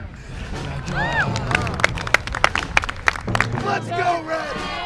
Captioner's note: students clapping